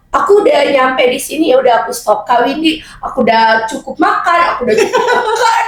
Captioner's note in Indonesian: tertawa